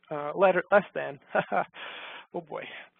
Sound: laughs

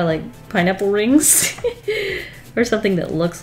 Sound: laughs

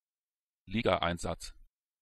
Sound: fast Pronunciation

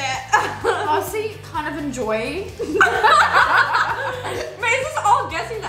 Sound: laughs

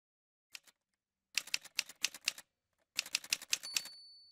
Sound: typewriter sounds

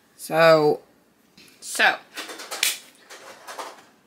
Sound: claps

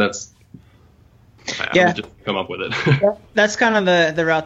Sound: laughs

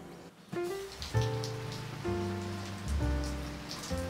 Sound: gentle Rain Sound

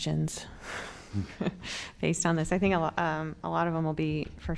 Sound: laughter

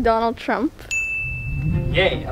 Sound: bell rings

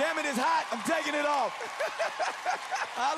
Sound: laughter

